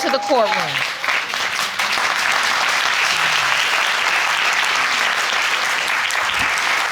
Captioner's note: audience clapping